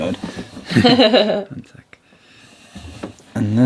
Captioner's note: laughing